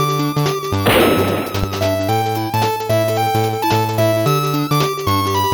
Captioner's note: smack